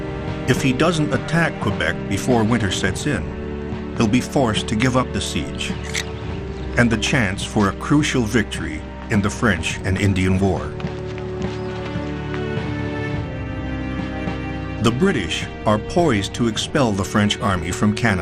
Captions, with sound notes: If he doesn't attack Quebec before winter sets in, he'll be forced to give up the siege. (periscope clicks) And the chance for a crucial victory in the French and Indian War. The British are poised to expel the French army from Canada.